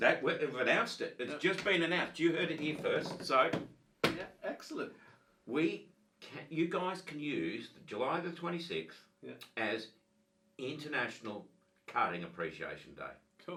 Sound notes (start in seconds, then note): 4.0 drumming on table